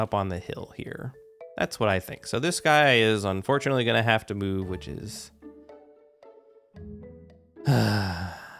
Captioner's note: sighs